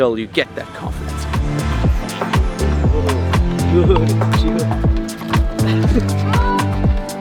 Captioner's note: cool music; speaking faintly